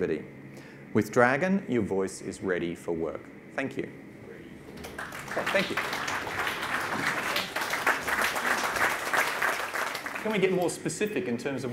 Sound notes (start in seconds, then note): 4.7 audience claps